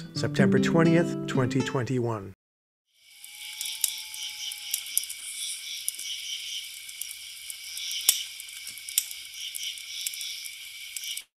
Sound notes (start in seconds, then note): 3.0 crackling; 7.0 crickets chirping